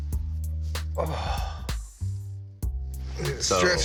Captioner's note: jazzy bass music; exhales